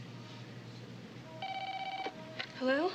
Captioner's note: phone ringing